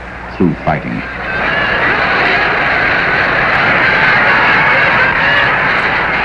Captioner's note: crowd shouting and chanting